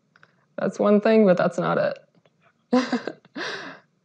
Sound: laughs

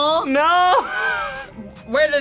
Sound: laughs

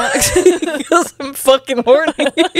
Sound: panel laughing

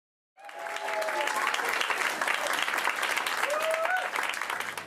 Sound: audience applause

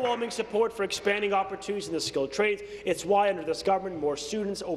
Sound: applause

